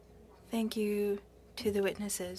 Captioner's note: speaking French